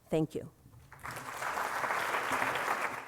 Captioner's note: applause